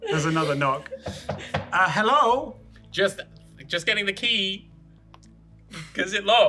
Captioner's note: Thinker, knocking